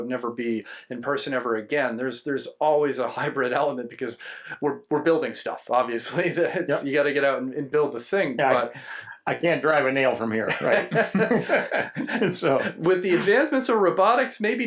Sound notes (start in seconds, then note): 10.5 everyone laughs